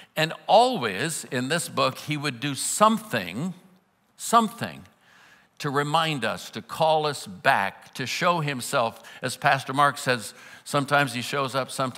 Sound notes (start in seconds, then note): none